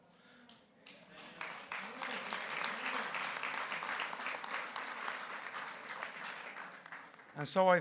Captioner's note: applause